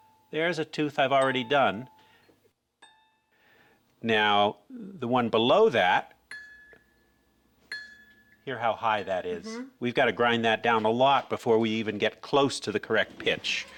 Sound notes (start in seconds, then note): 7.6 dinging